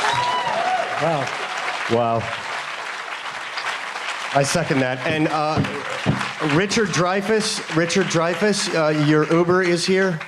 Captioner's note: applause